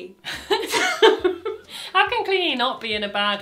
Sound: both laugh

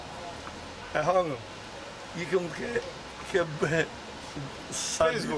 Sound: speaking in Albanian

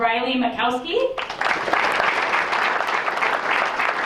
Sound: applause

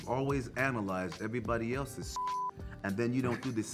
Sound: beep

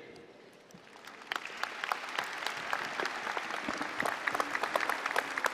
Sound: applause

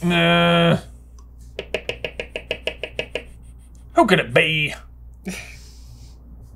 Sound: tap tap tap

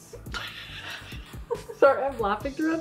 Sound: laughs

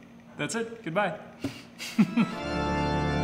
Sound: laughs; creepy organ music

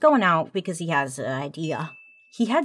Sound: bell ringing

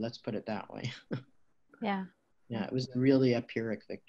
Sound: chuckles

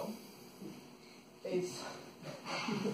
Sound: laughter

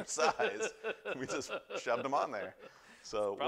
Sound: laughter

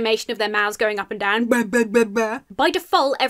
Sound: mimics fish talking

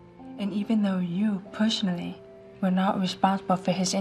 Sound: none

